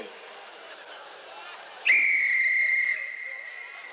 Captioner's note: whistle blows